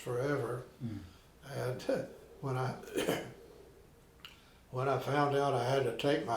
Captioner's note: coughing